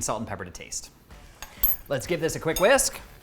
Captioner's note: metal clinks